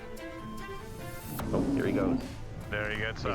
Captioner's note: roars